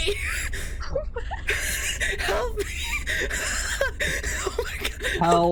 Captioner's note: shocked laughter